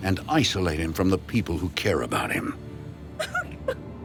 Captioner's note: crying